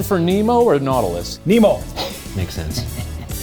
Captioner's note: laughing; game show music continues